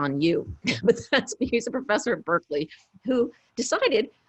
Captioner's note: laughs